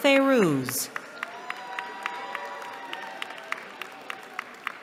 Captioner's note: cheering